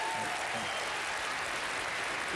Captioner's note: applause